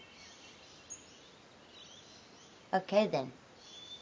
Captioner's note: none